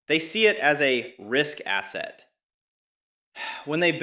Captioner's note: sighs